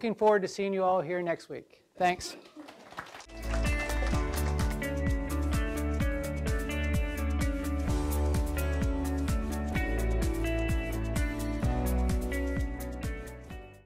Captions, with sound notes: So, looking forward to seeing you all here next week. Thanks. (all clapping) (upbeat music)